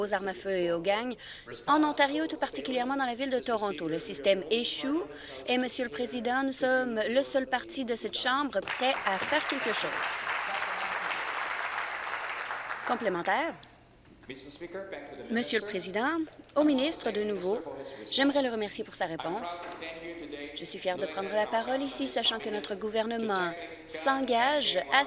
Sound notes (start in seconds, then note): 12.9 applause